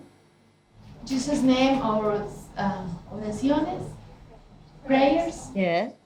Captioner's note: prayers in Spanish